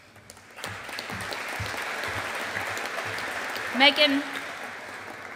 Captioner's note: audience applauding